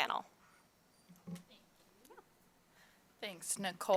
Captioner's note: speaking faintly